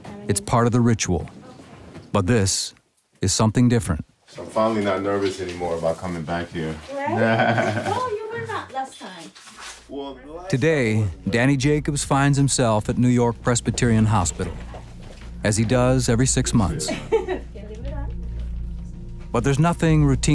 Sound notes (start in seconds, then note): 7.0 laughs